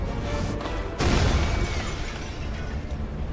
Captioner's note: loud crashing